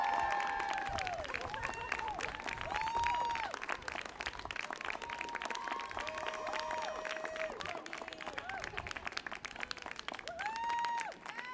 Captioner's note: applause